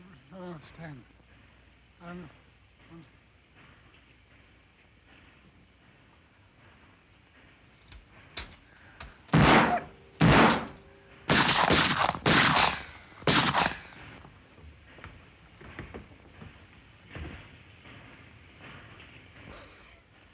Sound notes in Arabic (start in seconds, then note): 0.3 إريك يتمتم; 9.3 طلقات نارية